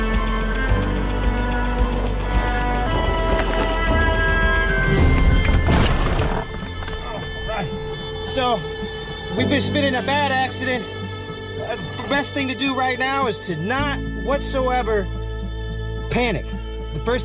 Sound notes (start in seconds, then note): 0.2 dramatic music; 5.2 metal creaking